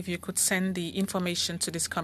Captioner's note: speaking French